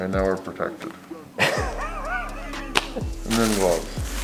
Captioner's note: laughs